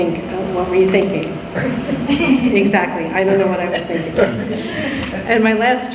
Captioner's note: laughter